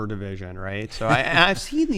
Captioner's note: laughter